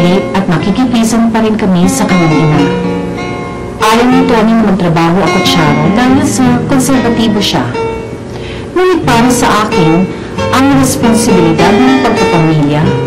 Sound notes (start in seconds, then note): none